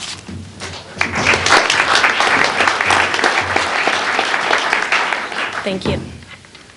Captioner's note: applause